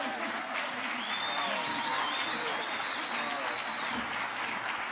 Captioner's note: audience applauding